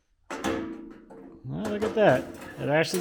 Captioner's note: metal clunking